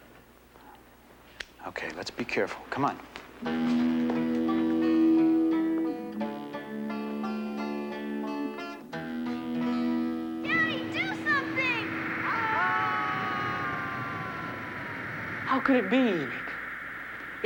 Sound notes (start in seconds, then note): 4.1 intense music; 12.6 group yelling